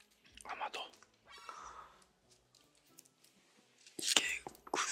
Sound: gasp

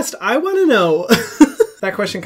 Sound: laughing

